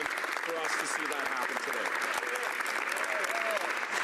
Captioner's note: applause